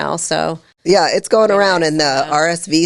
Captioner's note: speaking quietly